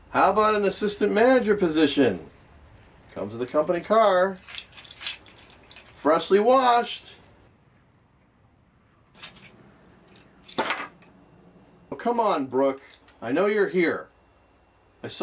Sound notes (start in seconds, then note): 4.3 keys jangling; 9.1 keys clanging